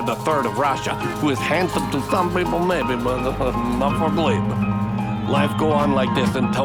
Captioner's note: laughs